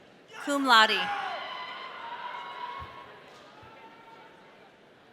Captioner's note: audience cheering